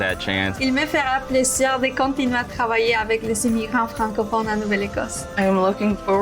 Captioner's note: speaking in foreign language